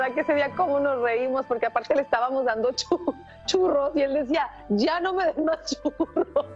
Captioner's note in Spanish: risas